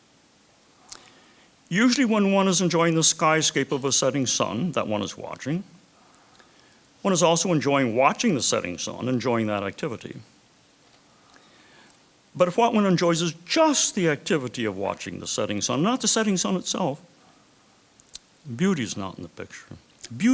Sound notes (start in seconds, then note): none